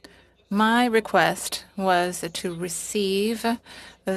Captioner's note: speaking french